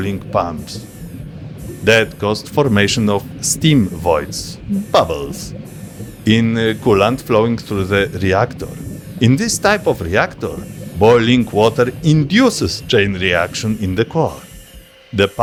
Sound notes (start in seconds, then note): 4.3 bubbles